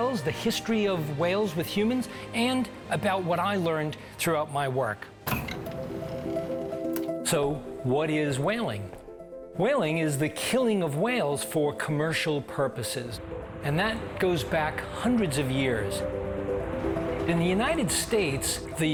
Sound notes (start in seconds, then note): 5.2 door creaking